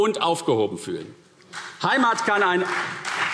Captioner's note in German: Beifall CDU